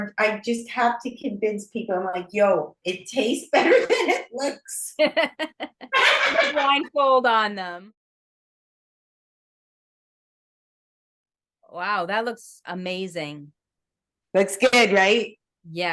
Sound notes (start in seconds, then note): 5.0 laughs